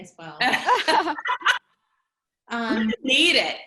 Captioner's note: laughs